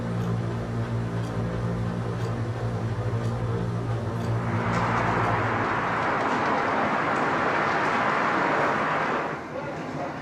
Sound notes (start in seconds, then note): 4.9 wind blowing